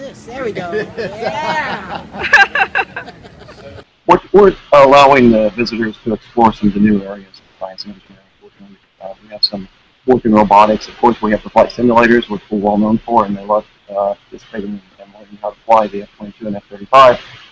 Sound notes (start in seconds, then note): 2.2 laughs